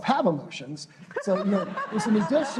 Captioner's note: laughter